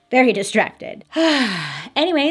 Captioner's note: sighing